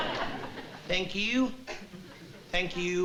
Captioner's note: impersonating ed sullivan